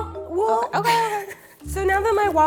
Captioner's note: laughs